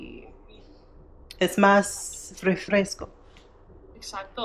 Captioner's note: speaking in foreign language